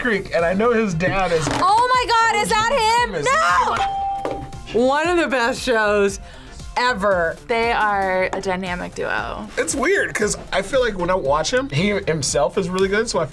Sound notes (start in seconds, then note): 3.7 ding